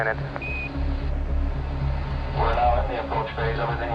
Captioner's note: device beeps